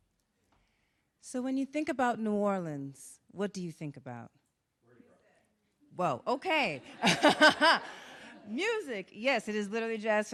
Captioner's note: laughs